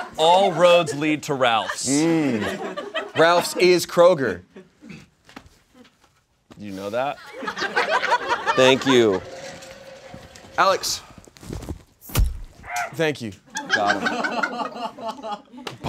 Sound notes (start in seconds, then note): 0.0 audience laughs; 7.2 audience laughs; 12.0 marker thuds; 12.2 shrieks; 13.5 audience laughs